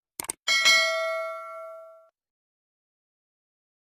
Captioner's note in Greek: καμπανάκι